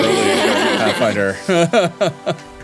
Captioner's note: everyone laughing